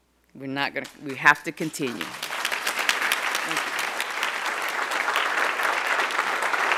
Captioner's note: crowd applauding